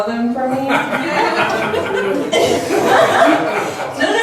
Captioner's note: laughs